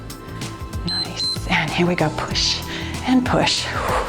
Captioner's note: timer beeps